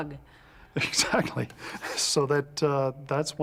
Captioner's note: chuckles